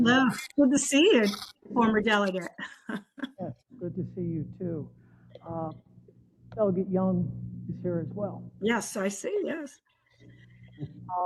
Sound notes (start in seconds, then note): 2.3 laugh